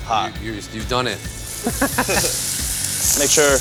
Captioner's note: laughs